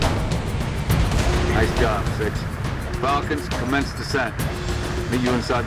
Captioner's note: radio